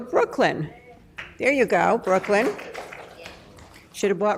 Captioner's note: applause